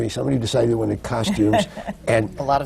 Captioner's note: laughs